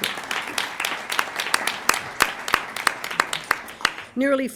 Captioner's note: applause